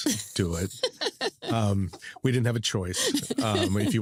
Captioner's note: laughs